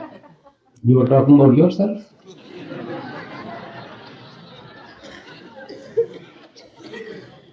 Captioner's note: audience laughs; jokingly; audience laughs